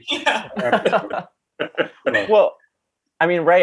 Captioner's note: laughing